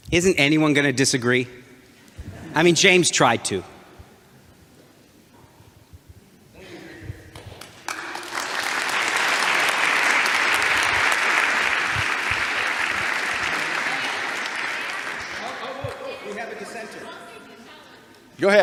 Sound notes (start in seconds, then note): 7.8 audience applauds